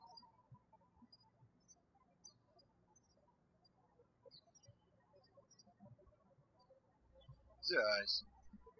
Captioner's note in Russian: птички щебечут